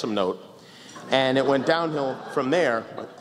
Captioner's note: laughter